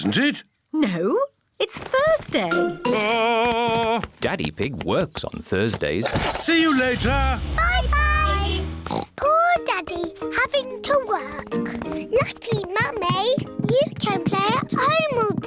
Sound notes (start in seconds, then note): 7.5 horn beeps; 8.4 oinks